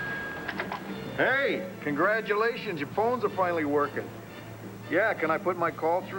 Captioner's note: telephone rings